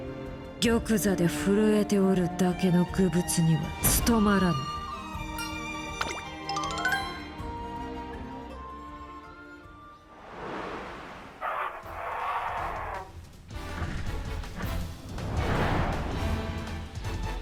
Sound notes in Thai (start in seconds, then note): 11.3 เสียงขู่คำราม